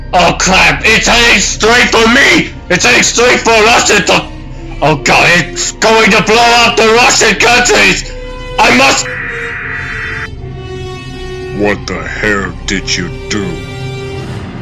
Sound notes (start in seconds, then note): 4.6 russian in radio: Oh god, it's going to blow up all the russian countries!; 8.4 russian in radio: I must